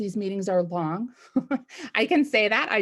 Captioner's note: chuckles